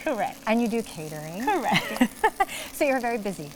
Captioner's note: laughs